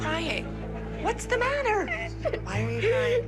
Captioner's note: sobbing